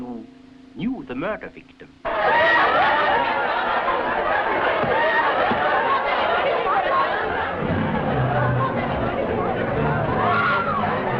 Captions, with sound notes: that you knew the murder victim. (partygoers shouting and laughing) (dramatic music)